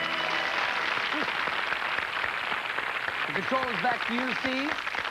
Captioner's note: applause